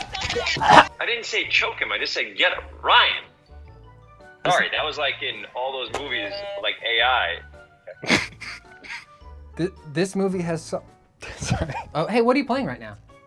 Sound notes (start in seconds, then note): 0.1 choking; 6.2 buzzer beeps; 11.1 wheezing